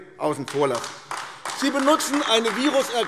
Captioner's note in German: Beifall AfD